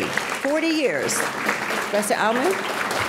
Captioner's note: audience clapping